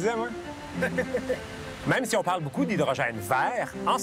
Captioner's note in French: rire